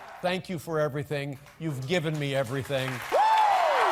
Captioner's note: nats/applause Colbert